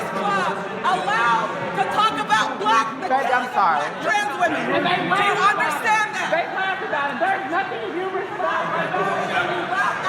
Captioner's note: protesting commotion